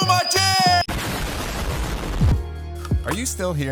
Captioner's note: bomb explodes